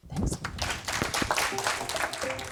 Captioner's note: applause